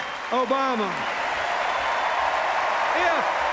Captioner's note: cheers, applause